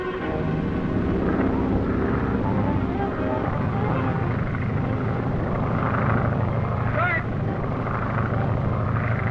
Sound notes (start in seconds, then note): 1.1 airplane rumbling; 6.9 yelling